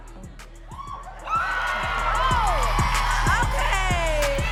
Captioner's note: audience cheering and clapping